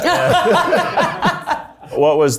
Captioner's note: people in the background laughs happily